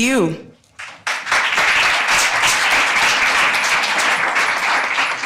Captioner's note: audience applauding